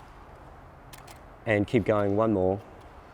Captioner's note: clicking